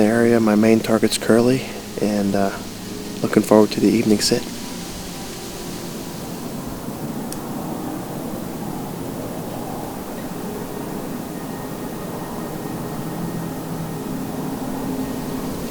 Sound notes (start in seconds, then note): 5.1 light wind